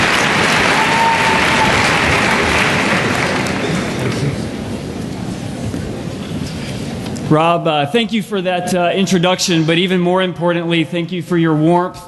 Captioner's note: cheering and Applause